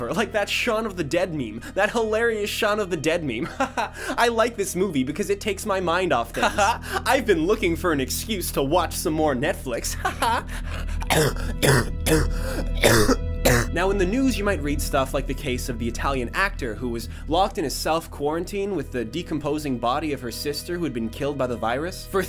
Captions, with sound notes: Like that Shaun of the Dead meme. That hilarious Shaun of the Dead meme. Haha. I like this movie because it takes my mind off things. Haha. I've been looking for an excuse to watch some more Netflix. Haha. Ha- *heavy coughing* Now in the news, you might read stuff like the case of the Italian actor, who was locked in a self-quarantine with the decomposing body of her sister, who had been killed by the virus.